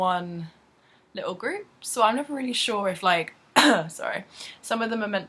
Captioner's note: coughs